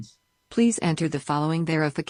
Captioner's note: automated Voice